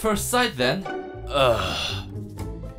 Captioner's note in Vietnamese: thở dài